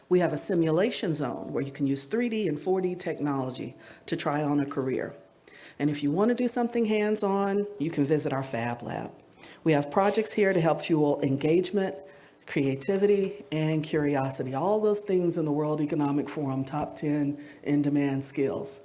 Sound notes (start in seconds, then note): none